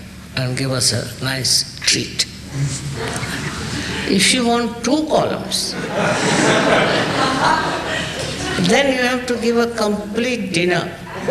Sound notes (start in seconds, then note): 5.7 laughter